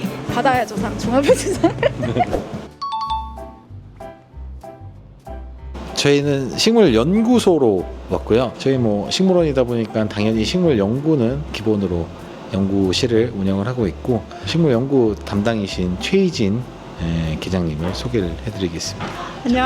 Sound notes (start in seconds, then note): 1.2 laughter; 2.8 ding sound effect; 3.5 cheerful music